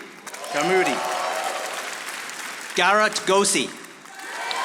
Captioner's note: audience applauding